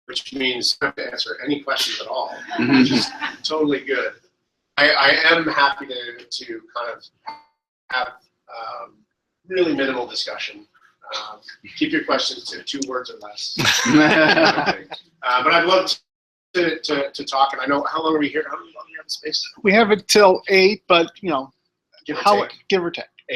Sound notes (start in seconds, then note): 2.3 laughter; 13.6 laughter